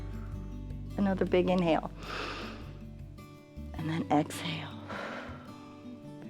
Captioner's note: inhales; exhales